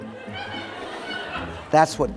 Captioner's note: laughter